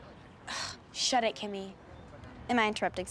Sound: scoffs

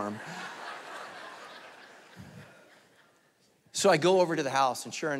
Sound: congregation laughing

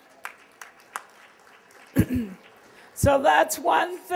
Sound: applause

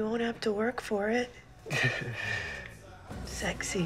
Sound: chuckles

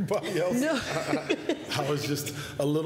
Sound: laughter

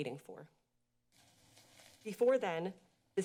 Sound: pause

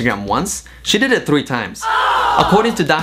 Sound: shocked fx sound

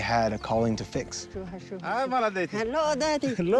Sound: both speaking foreign language

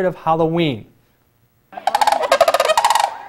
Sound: crane rattle

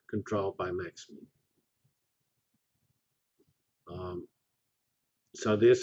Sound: pause

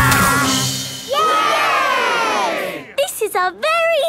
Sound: all cheering

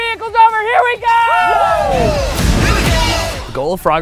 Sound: cheering

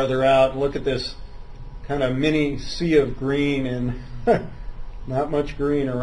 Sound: laughs

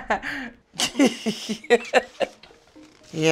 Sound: laughing

